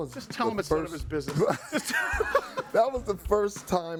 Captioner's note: hosts laughing